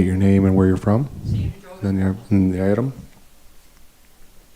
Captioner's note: speaker chattering